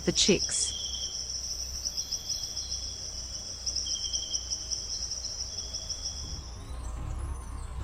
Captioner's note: birds chirping